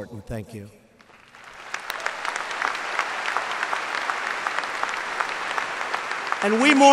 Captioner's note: applause